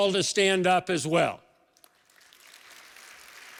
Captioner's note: applause